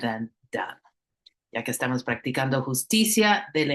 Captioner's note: speaking spanish